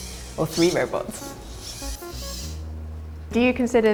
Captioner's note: robots whirring